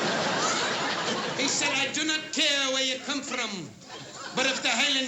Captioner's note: scottish accent